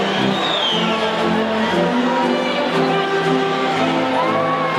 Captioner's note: audience whistles